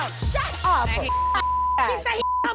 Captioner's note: people shouting indistinct